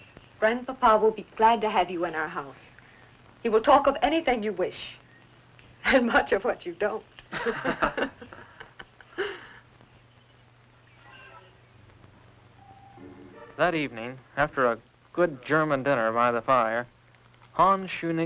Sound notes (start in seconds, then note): 7.2 laughter